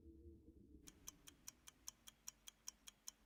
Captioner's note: clock ticking